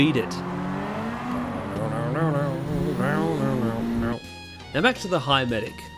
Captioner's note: vocalising the riff